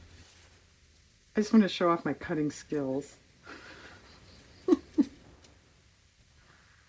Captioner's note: laughs